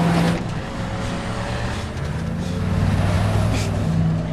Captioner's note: chaz panting